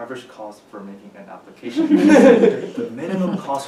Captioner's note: chuckles